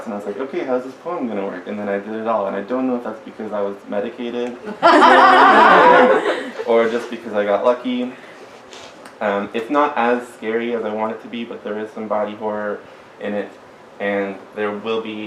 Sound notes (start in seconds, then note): 4.6 laughter